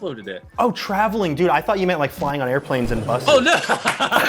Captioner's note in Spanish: risas